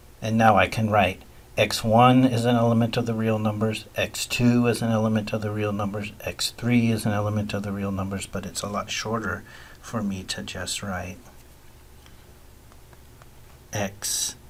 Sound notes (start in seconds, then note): none